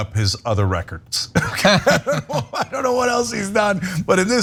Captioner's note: laugh